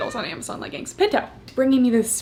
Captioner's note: cat meows